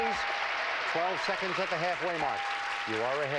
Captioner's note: audience applauding